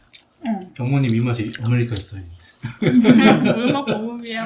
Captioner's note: laughing